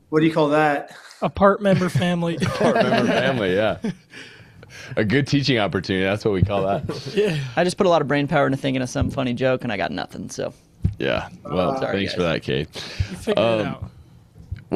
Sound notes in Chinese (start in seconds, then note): 1.7 笑声